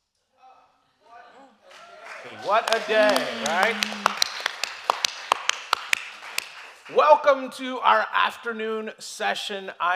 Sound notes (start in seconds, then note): 4.0 audience applauding